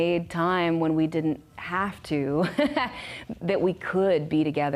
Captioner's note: risadas